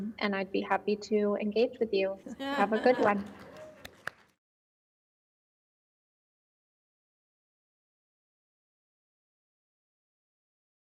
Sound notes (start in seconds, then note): 2.6 faint applause